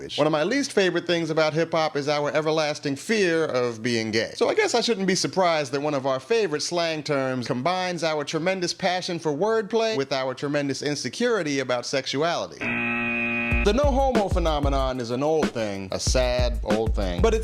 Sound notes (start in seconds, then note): 12.6 buzzer